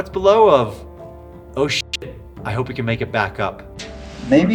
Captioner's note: beep